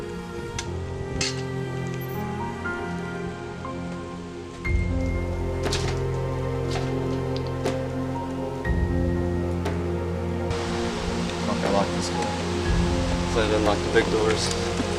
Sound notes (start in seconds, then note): none